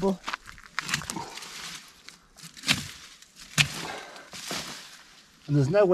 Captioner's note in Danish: skærende lyde